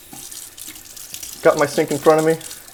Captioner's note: water running